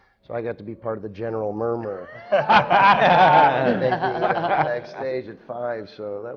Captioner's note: laughter